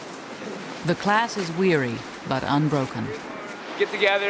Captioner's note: voiceover